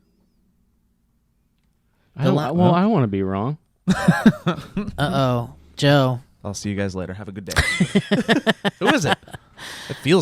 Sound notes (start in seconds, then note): 3.9 laughs; 7.5 laughs